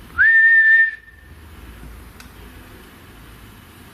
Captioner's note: whistling